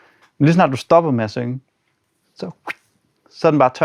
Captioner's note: imitates the sound